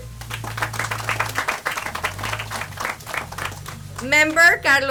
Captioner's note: audience applauds